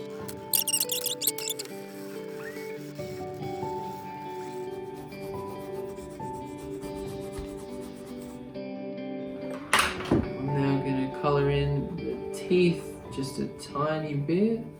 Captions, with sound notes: (squeaking) I'm now gonna color in the teeth just a tiny bit.